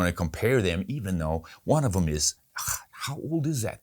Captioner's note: vocalizes